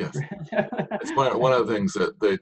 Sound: laughing

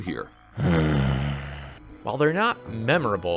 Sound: exasperated groan

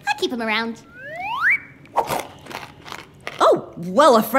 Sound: crunching

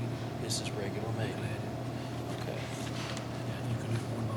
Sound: faintly speaking

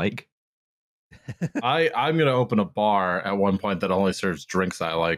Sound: laughs softly

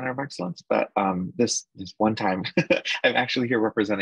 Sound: laughs

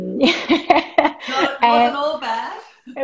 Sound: laughing

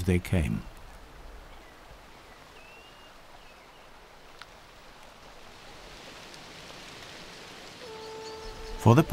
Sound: running water

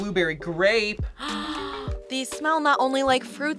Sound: React gasps

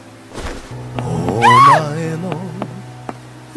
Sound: screams in Japanese

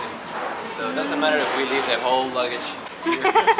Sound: laughs

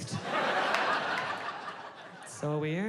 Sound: audience laughing

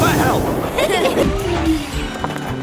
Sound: laughing

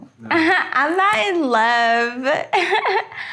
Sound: laughing; laughing

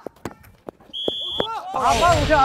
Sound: whistle-, foul ball

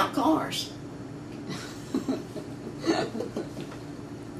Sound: laughter

